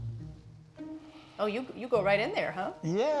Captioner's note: inhaling